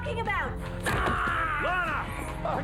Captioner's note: Phil screams